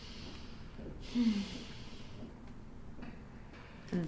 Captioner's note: sighs